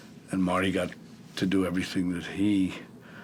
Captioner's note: none